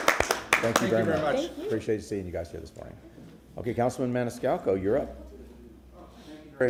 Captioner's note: applause